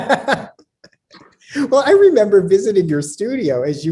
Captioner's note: laughs